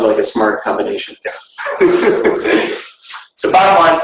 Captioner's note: laughing